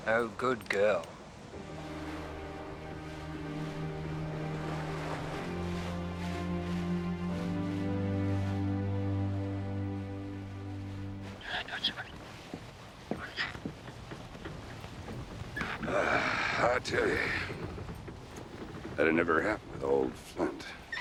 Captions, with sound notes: - Oh, good girl. (gentle music) (Captain Flint squawking) - (sighing) I tell ya, that'd never happened with old Flint.